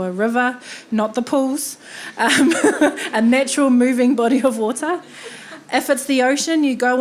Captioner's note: chuckling